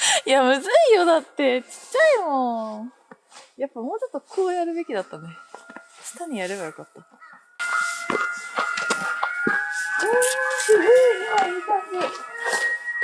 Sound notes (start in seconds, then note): 7.1 laughs